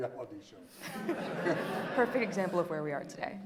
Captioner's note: audience laughing